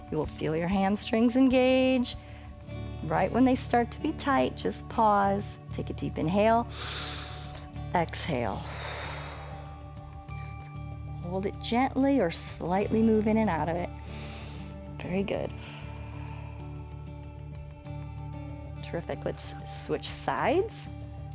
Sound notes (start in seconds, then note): 6.6 exhales; 6.7 inhales; 13.9 exhales